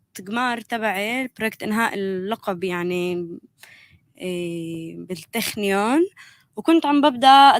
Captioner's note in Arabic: لغة أجنبية